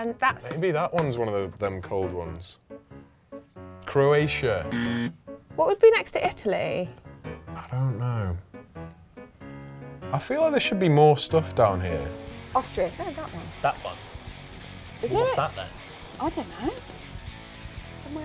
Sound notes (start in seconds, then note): 4.7 alarm